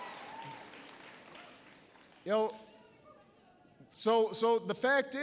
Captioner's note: applause